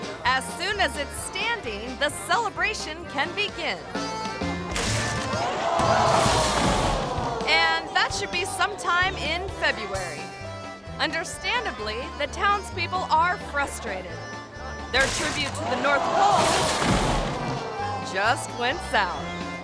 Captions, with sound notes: As soon as it's standing, the celebration can begin. (pole snaps) (audience gasps) And that should be sometime in February. Understandably, the townspeople are frustrated. Their tribute to the North Pole just went south.